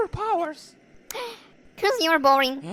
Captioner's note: inhale